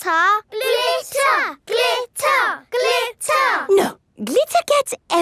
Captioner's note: chanting